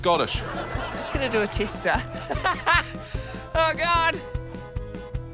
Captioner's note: laughs